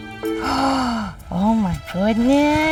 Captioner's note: gasps